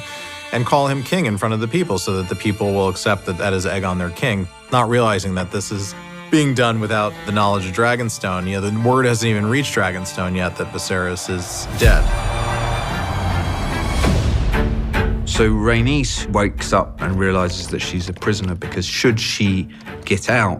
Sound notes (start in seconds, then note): 12.1 guests cheer